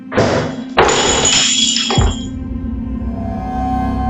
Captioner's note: glass smashes